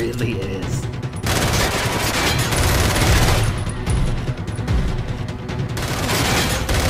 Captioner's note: intense music; machine guns firing